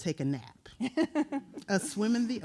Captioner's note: laughing